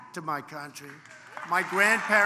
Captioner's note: applause